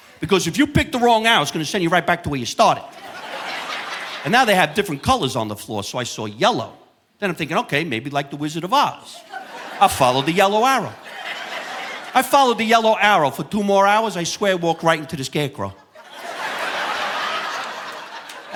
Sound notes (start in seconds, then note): 2.8 audience laughing; 15.6 audience laughing